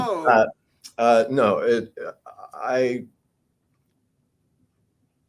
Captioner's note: laughs